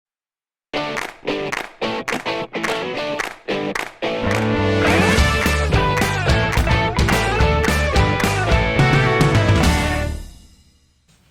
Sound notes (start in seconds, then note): 0.8 claps